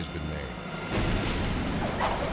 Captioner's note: explosion booms; debris whirring